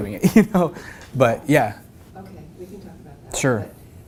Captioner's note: laugh